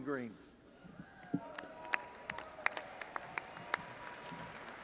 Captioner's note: audience applauding